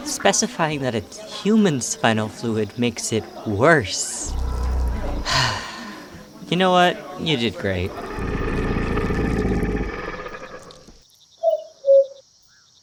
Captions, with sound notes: Specifying that it's human spinal fluid makes it worse. [Azazel Gurgles] How come no one can ever tell when I'm joking. Ugh. Whatever. How was my acting? You know what? You did great. [Azazel purrs]